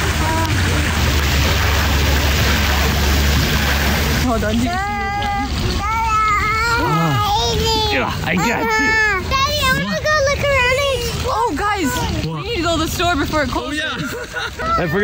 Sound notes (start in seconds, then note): 1.1 water splashing; 5.8 babbling; 13.8 laughing